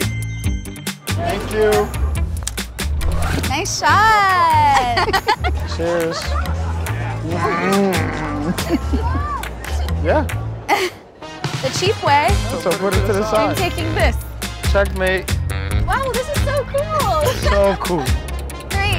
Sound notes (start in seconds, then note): 0.1 energetic music; 4.6 both laugh; 17.9 energetic music